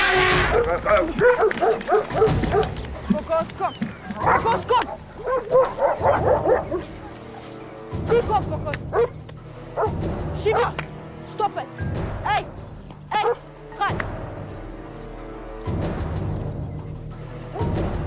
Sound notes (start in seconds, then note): 3.0 speaking foreign language